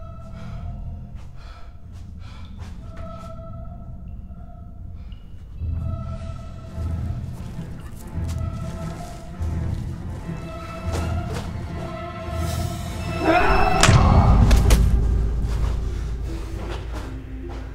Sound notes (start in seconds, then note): 5.6 eerie music; 13.0 screams